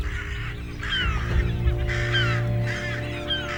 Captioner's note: birds cawing